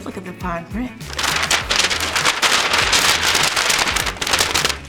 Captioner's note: paper rustling